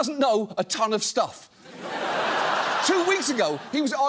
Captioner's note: laughter